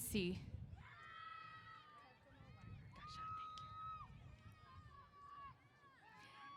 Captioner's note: cheers